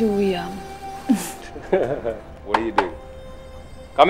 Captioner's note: Rishi laughing; Door knocking